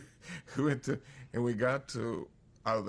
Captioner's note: laughs